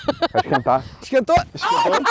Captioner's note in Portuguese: som de pancada